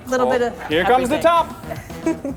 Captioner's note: mother chuckles